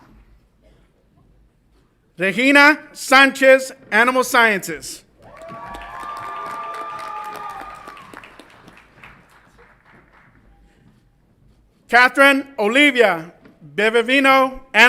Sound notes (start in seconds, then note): 5.2 audience applauds and cheers